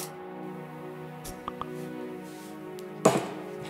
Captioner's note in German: Handy Benachrichtigung